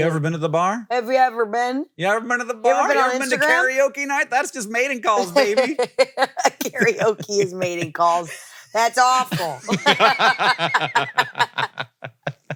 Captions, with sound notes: You ever been to the bar? Have you ever been? You ever been to the bar? You ever been on Instagram? You ever been to karaoke night? That's just mating calls, baby. (laughs) Karaoke is mating calls. That's awful. (both laugh)